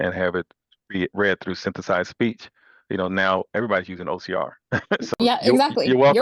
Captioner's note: laughs